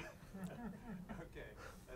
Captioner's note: laugh